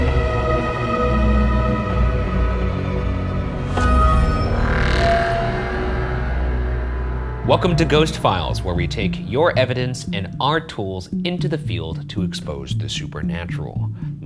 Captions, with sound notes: (logo buzzing) - Welcome to "Ghost Files" where we take your evidence and our tools into the field to expose the supernatural.